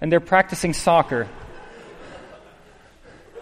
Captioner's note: laughter